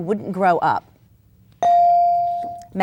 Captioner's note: bell dings